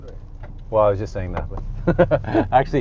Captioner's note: laughs